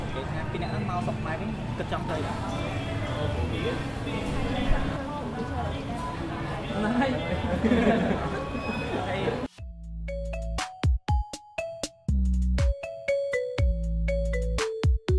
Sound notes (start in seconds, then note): 6.8 laugh